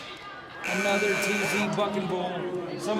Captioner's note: buzzer buzzing